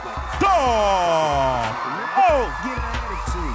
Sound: applause

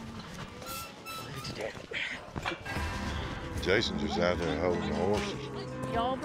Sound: gate creaking

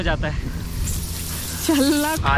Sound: sizzle

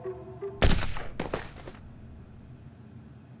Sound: gunshot

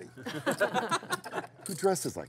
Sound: laughing

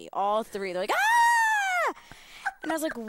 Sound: screaming

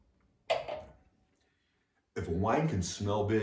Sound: glass taps

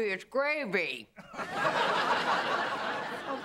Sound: laughter

